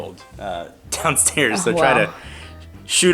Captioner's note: chuckles